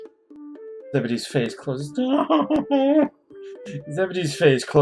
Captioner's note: whimpers